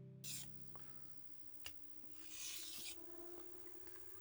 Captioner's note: metal scraping